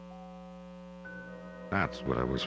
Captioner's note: soft, high-pitched twinkling note